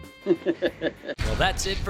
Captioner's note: laughing